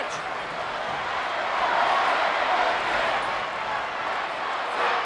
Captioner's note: crowd chanting